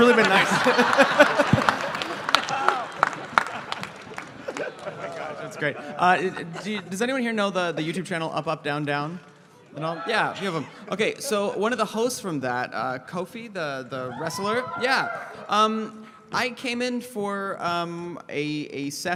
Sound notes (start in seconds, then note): 0.0 laughter, applause; 9.5 audience: wooo!; 14.0 audience: woooo!